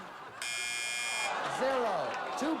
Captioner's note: buzzer